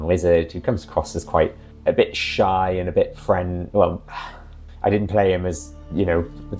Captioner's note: sigh